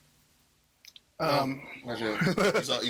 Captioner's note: laughing